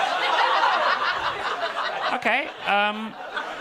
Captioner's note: audience laughing